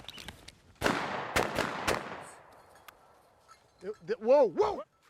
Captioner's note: multiple gun shots